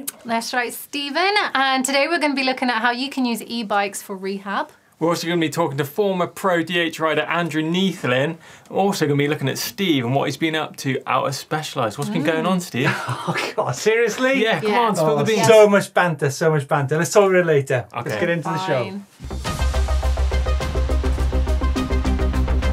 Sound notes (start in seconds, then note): 12.7 laughing; 19.3 upbeat music